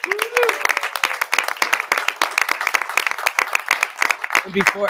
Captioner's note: audience clapping